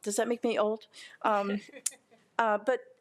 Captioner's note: board member laughing